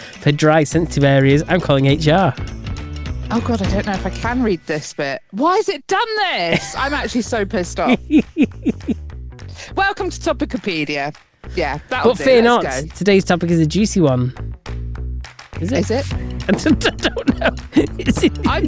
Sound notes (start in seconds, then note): 7.6 laughs